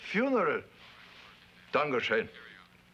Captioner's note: speaks foreign language